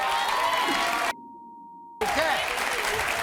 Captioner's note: applause